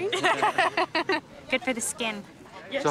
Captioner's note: laughing